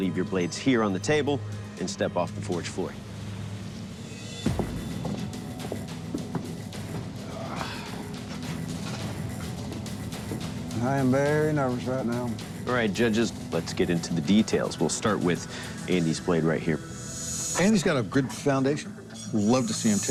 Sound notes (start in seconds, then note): 8.5 sighs